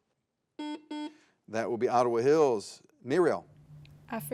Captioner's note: buzzer beeps